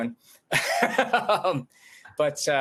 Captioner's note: chuckles